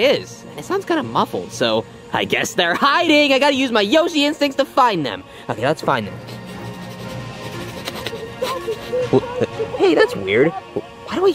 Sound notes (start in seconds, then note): 6.2 sniffing; 8.7 Luigi's muffled chattering